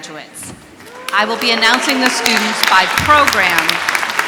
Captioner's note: applause